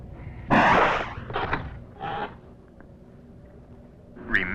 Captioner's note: door whooshes